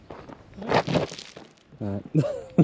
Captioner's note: stones slide underfoot; laughter